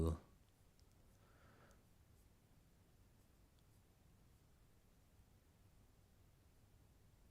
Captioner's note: silence